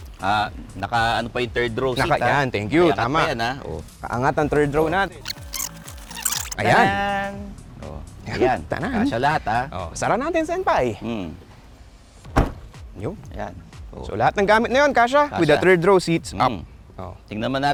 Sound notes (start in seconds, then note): 12.3 door thuds